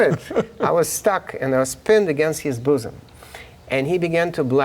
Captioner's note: laughing